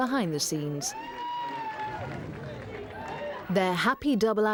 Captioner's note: crowds cheering